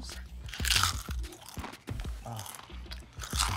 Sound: crunching

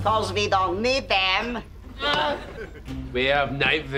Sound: groaning

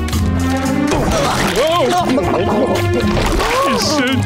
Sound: bubbles popping

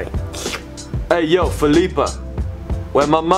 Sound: slurps

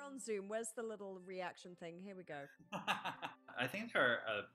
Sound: laughter

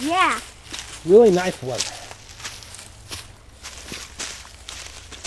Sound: voiceover

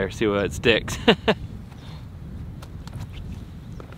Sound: laughs

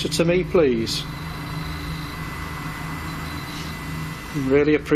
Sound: machine buzzing

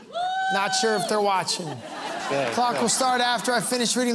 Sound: laughter

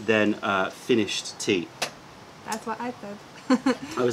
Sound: laughter

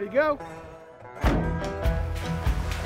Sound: van door shutting

